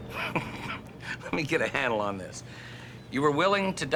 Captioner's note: laughs